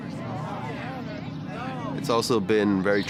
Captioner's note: people chattering